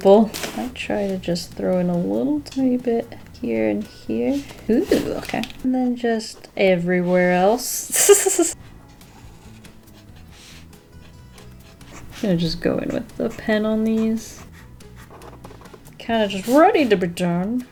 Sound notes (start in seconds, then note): 7.9 laughs